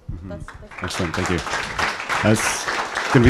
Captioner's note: applause